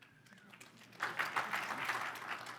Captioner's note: crowd applauds